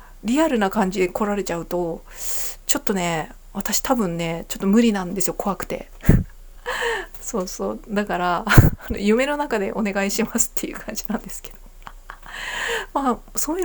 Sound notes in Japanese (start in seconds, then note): 6.6 息をのむ音; 6.9 笑い